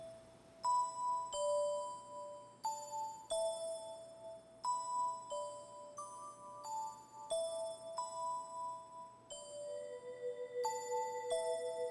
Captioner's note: bells ringing